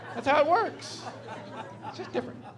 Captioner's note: laughing